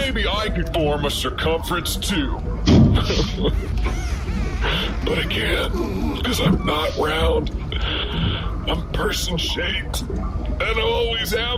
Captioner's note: cries